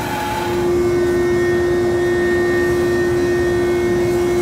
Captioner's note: machine whirring